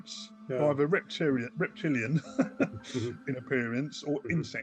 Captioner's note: chuckles